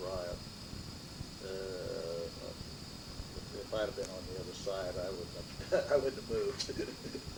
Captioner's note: laughs